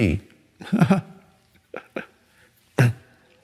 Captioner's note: Eckhart laughs